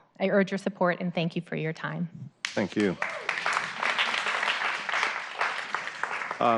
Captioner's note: applause